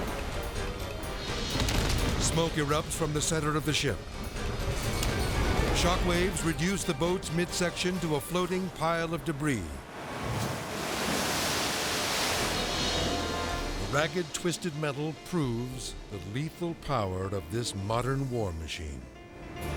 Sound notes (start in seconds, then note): 9.8 water splashing